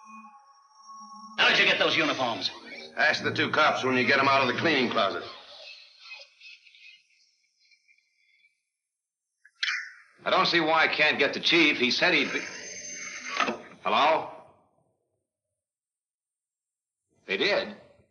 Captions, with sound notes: - How'd you get those uniforms. - Ask the two cops when you get 'em out of the cleaning closet. - I don't see why I can't get the chief. He said he'd be- (phone ringing) Hello? They did.